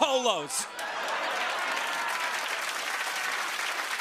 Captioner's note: cheers and applause